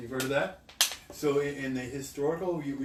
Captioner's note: clapping